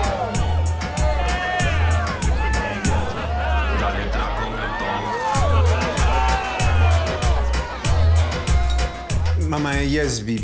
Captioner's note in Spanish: Gritos y exclamaciones